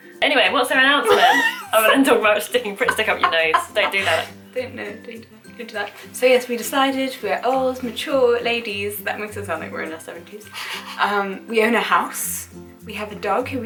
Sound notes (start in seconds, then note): 0.0 breathy laughter; 4.5 laughter